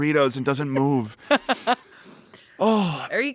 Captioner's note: laughs